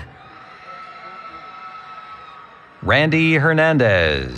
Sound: cheering

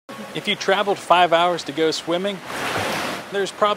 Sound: splash

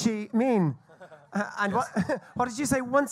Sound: laughs

